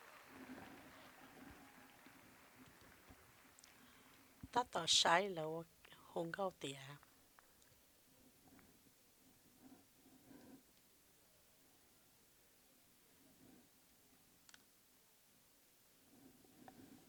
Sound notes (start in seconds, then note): 0.0 cheers and applause